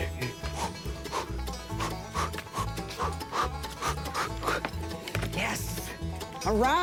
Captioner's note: exaggerated breathing